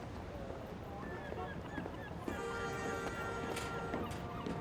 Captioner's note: car honking